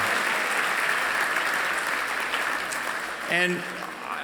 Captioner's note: applause